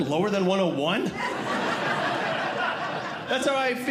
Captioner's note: audience Laughing